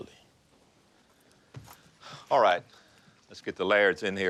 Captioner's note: sighs